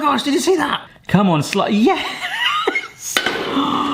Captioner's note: laughs